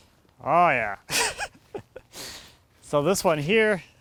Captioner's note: laughs